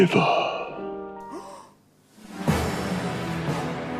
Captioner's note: gasp of excitement